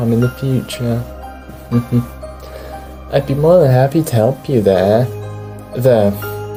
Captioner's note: somewhat ominous chuckle